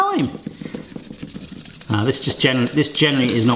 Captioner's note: paper scratching